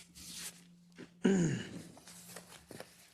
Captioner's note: cough